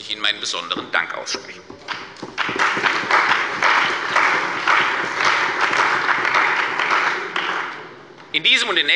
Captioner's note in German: Beifall bei der CDU und dem BÜNDNIS 90/DIE GRÜNEN